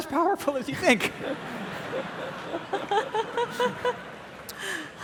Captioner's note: audience laughing